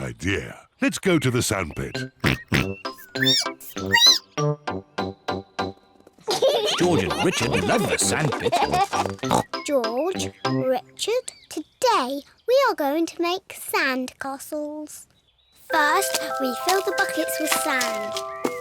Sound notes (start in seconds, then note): 2.2 oinks; 2.2 squeaks